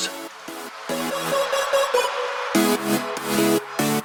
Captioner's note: applause